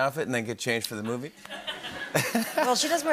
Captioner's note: laughter